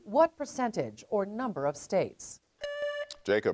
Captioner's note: buzzer beeps